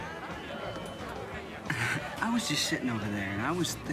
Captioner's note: chuckles